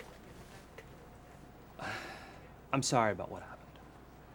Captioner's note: sighs